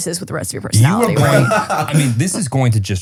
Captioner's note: laughs